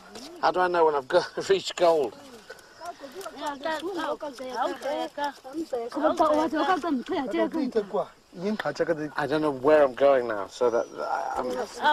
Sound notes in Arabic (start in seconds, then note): 3.7 الثرثارة خلفية بلغة أجنبية